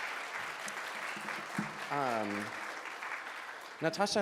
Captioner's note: audience claps